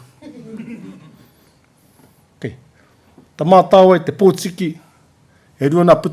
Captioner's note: laughter